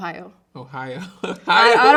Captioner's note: chuckling